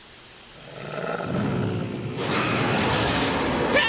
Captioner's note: angry alien growling; generic male screaming